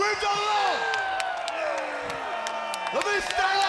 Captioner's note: crowd cheering